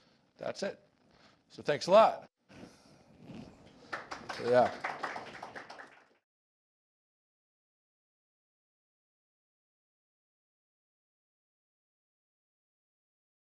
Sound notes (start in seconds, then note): 3.8 applause